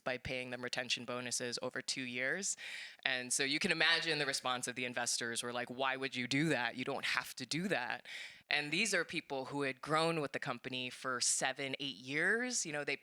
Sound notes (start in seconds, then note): none